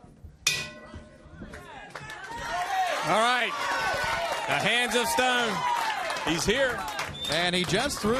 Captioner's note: bell ringing